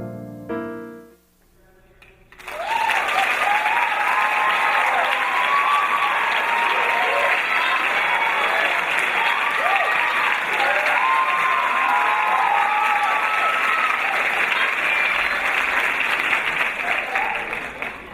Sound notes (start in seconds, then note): 2.3 audience cheering